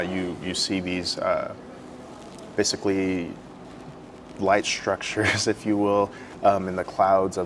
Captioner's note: laugh